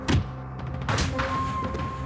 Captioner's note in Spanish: Golpes